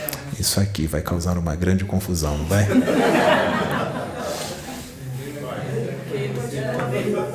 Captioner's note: laughs